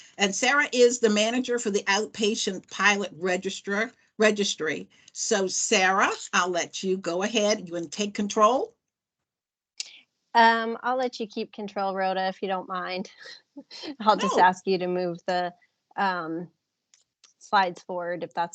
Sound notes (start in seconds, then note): 14.1 laughs